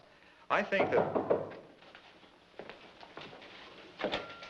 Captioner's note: knocking